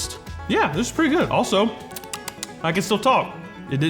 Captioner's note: smacking lips